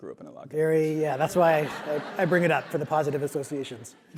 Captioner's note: laugh